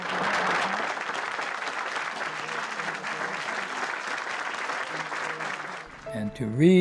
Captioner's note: applause